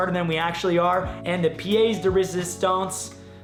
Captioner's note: speaking in foreign language